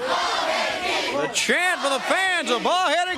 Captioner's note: crowd chanting